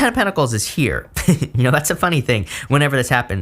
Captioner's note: giggles